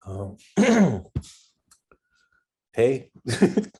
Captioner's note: clearing throat